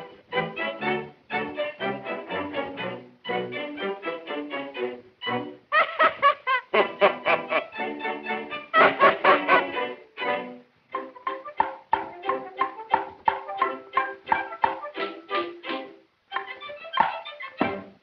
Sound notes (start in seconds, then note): 5.7 laughs; 8.7 both laugh